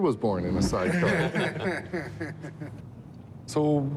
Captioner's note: laughter